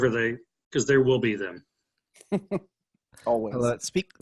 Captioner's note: laughs